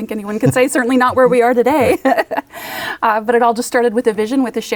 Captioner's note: laughs